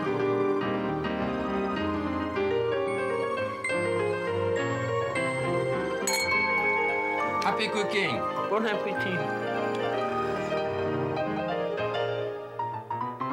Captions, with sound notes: (glasses clanking) - Happy cooking. - Bon apetit.